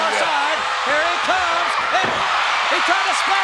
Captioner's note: audience cheers